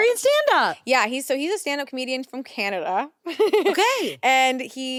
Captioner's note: laughs